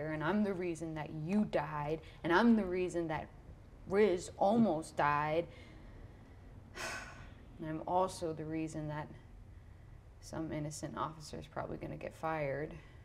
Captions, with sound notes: And I'm the reason that you died. And I'm the reason that Riz almost died. (sighs) And I'm also the reason that some innocent officer's probably gonna get fired.